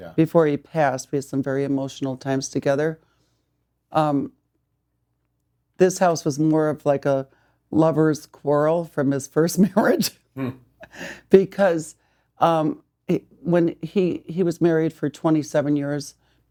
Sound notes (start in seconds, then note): 9.9 laughs